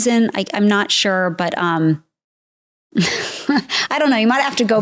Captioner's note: chuckles